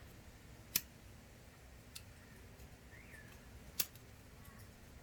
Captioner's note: lighter clicking